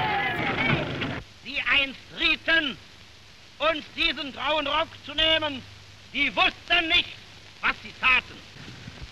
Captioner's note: German speech